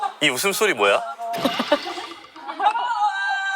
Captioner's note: failed to hold back laughter